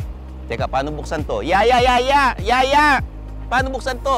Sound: cries for help

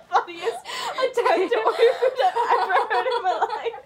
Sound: overlapping laughter

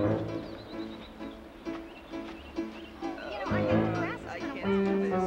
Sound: upbeat playful music; women chattering

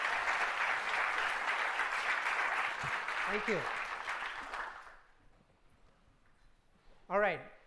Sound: applause

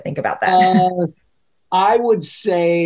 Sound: laughing

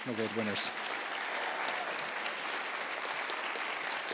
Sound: applause

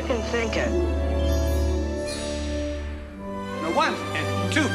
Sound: soft tinkle

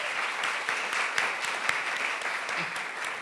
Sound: applause

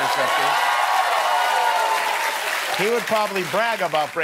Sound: applause

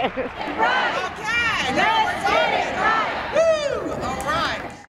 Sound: crowd Cheers; crowd Chants

